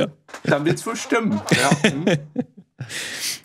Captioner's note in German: Lachen